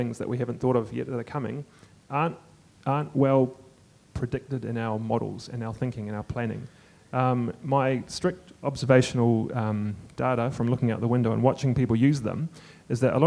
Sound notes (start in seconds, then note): none